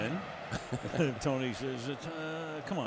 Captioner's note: laughter